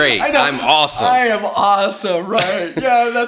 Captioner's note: laughing